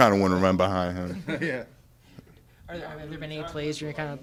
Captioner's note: laughs